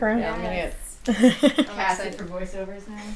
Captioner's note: laughs